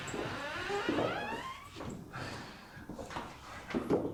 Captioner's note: door creaking